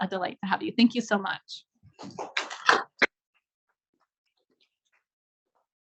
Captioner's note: audience applauds